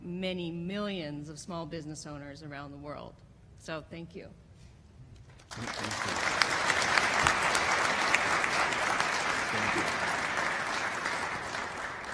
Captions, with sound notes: many millions of small business owners around the world. So, thank you. [APPLAUSE]